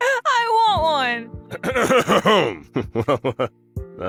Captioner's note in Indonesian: Ehem